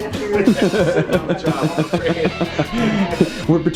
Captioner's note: laughing